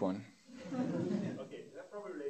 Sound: laughter

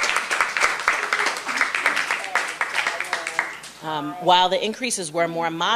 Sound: applause

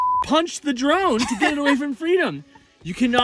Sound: laughs

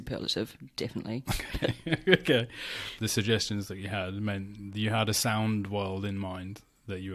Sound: laughs

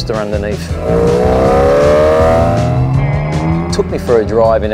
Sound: engine roaring

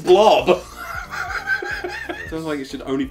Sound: laughs

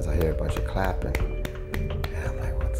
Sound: clapping

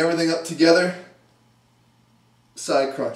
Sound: pause

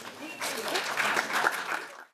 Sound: applause

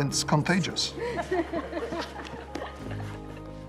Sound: chuckling

